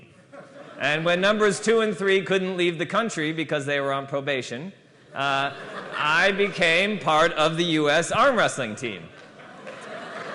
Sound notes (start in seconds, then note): 5.1 laughter